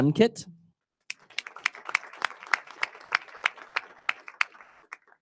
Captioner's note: audience applauding